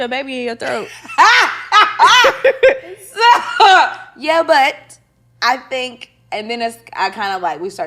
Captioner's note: laughing